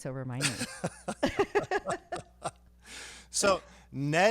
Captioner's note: laughing